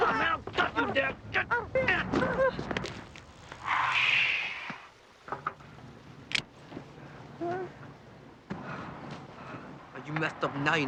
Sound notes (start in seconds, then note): 7.4 Huck whimpering